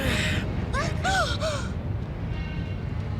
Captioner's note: gasps